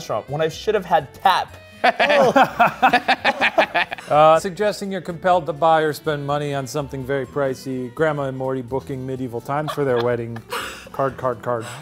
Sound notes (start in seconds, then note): 1.7 laugh